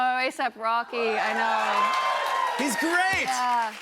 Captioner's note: cheers and applause